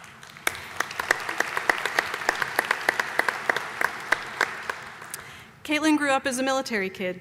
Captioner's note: applause